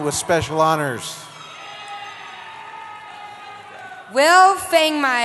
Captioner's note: cheering